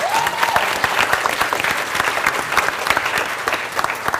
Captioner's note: cheer and Applause